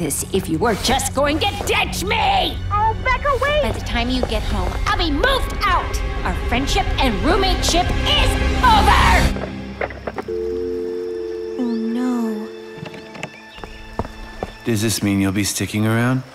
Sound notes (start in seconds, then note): 10.1 line disconnects